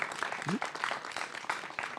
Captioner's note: applause